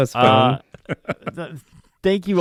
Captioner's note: laughing